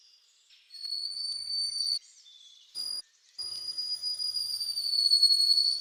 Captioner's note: birds chirping; high pitched squeaking